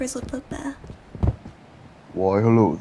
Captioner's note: thud